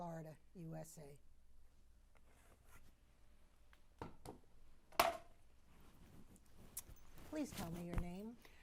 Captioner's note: pauses 6 seconds